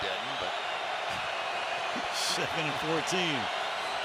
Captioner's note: laughter